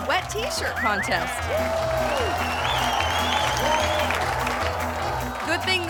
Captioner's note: audience applauding and cheering